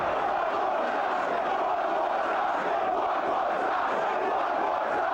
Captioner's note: crowd chants "One more time"